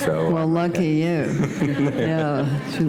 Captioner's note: laughter